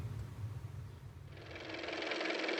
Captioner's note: car motor